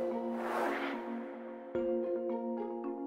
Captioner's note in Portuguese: som de vento